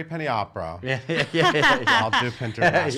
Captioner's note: laughing